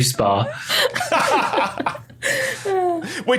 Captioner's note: laughs